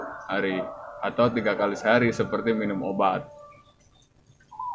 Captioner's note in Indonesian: Tertawa